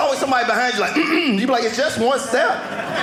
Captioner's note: clears throat